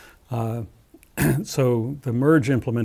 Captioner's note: cough